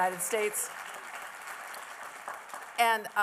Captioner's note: appluse